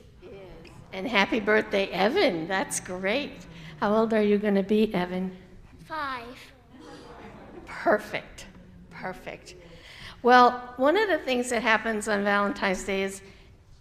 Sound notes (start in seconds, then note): 5.8 young voice; 6.4 congregation sighs "Aww"